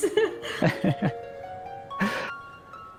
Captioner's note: grateful laughter